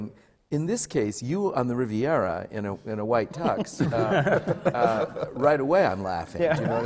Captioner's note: laughter